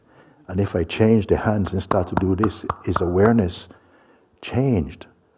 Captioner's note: claps